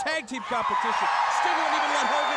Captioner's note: crowd cheering